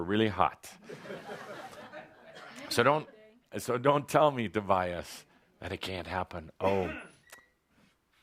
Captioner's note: laughter